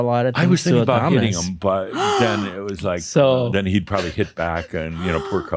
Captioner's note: gasps